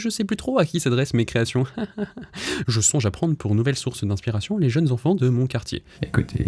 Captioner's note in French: rires